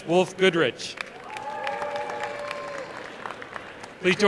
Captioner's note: applause